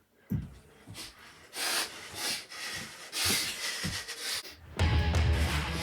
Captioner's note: more sniffing